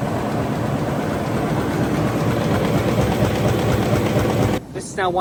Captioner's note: machine whirring loudly